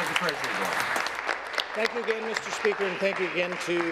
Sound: applause

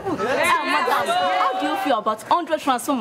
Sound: all chattering

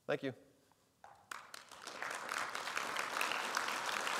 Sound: audience applauding

